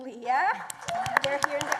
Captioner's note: applause